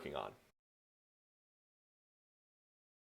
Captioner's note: silence